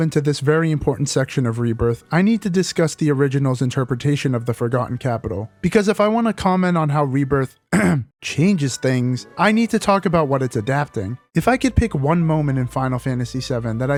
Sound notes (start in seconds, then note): 7.7 ahem